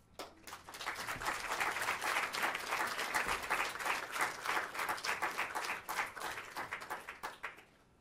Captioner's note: applause